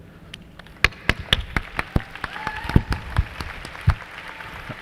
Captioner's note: applause